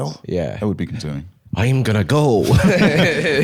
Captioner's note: Irish accent; both laughing